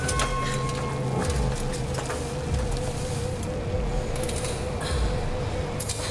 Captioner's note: metal whines; ominous music; breathes heavily